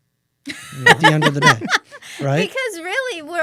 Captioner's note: laughter